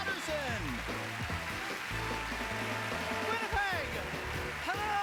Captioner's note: applause